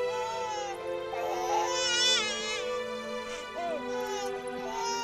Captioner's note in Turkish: Bebek ağlama sesi